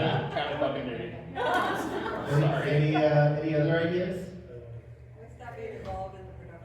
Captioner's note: laughter